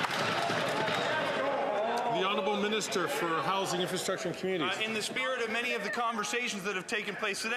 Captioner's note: some Applause